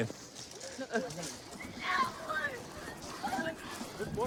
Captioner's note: yelling